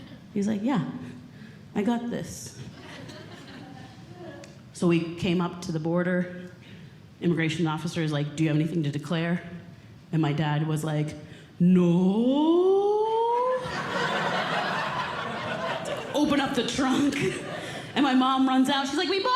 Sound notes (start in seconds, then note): 13.6 audience Laughing